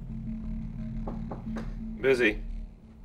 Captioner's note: knocking on door